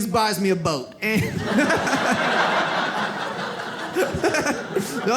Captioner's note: audience laughs